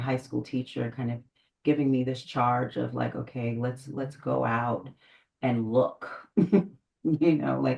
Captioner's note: laughs